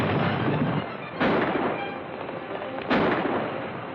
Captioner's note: firing